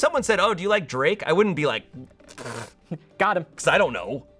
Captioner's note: blows raspberry